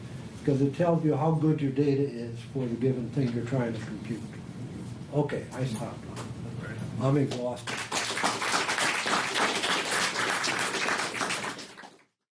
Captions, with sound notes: because it tells you how good your data is for the given thing you're trying to compute. Okay, I stop now. I'm exhausted. [applause]